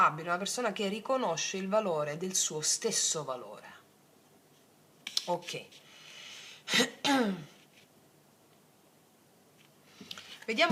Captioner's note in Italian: schiarire la voce